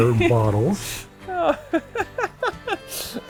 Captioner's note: laughter